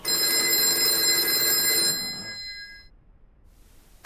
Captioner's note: phone ringing